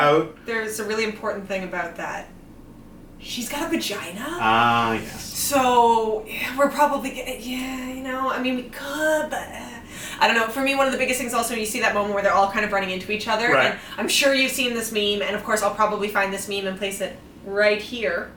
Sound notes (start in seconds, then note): 3.1 mock-whispering; 9.5 trails off vocally